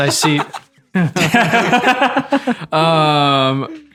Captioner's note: group laughing